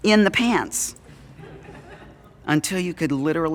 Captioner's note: audience Laughing